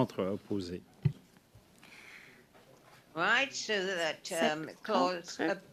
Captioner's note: speaking French